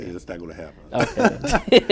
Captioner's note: laughter